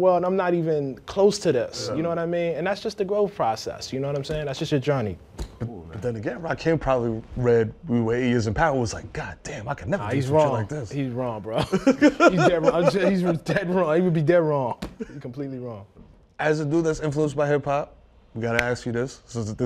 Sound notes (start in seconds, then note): 11.5 laughter